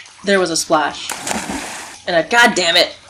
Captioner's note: splash